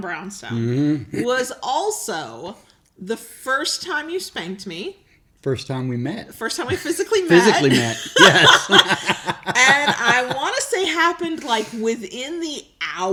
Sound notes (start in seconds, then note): 7.2 laughing